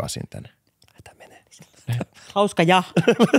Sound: whispering

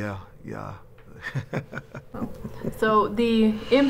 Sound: chuckles

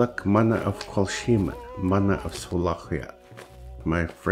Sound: indigenous language

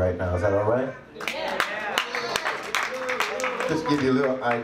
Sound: claps

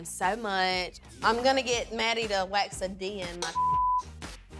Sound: beep

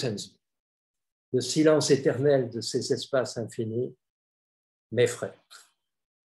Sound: speaks in French

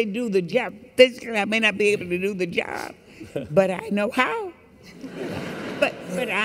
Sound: laughter

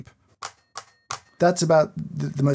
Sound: grinder knocker a-knocking

